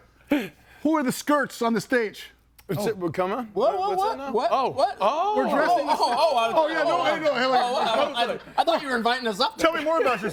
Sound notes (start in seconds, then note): 5.3 group chattering